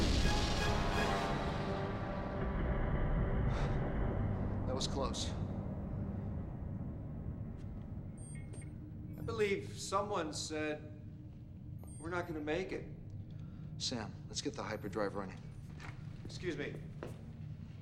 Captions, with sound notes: [SIGHS] THAT WAS CLOSE. [BEEPS] I BELIEVE SOMEONE SAID... WE'RE NOT GOING TO MAKE IT. SAM, LET'S GET THE HYPERDRIVE RUNNING. EXCUSE ME.